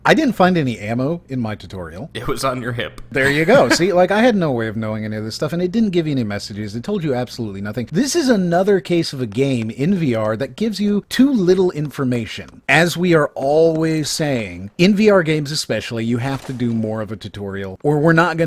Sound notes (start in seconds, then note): 3.2 laughs